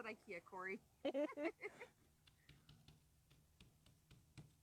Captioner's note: laughing